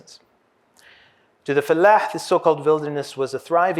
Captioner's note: hebrew